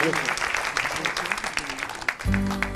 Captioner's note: applause